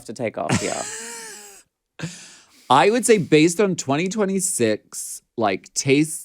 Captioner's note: laughs